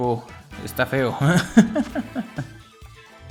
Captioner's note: laughs in Spanish